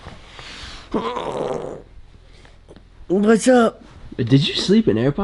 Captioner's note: groans